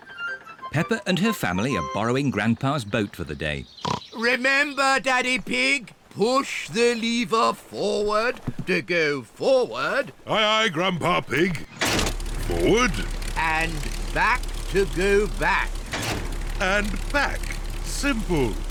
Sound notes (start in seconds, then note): 12.4 lever clunks; 15.9 lever clunks